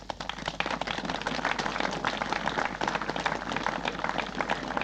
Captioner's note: applause